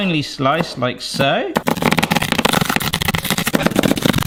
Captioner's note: fast chopping